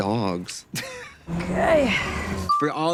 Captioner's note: Katya laughing